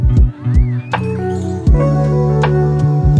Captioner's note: none